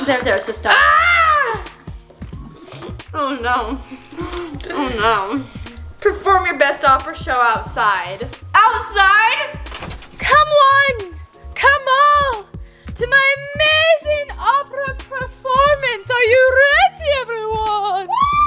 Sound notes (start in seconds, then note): 0.7 screams